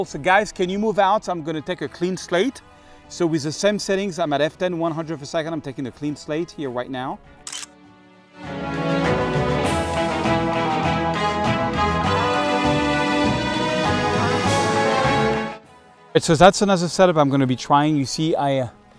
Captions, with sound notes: So, guys, can you move out? So, I'm gonna take a clean slate. So with the sun setting on my left in 100th of a second, I'm taking a clean slate here right now. (camera clicking) (upbeat music) So that's another setup I'm gonna be trying.